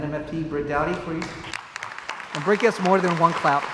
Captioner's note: crowd applauds